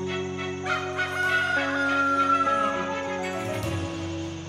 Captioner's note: playful music; rooster crowing